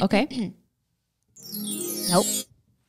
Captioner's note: sound effects